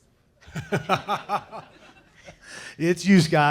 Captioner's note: laughing